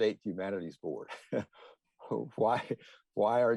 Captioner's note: chuckle